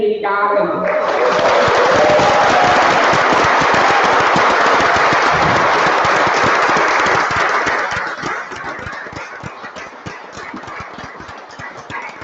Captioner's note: applause